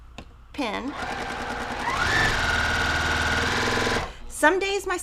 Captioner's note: sewing machine whirring